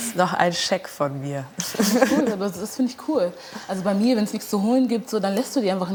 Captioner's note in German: Lachen